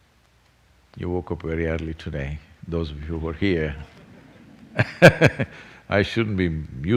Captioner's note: laughter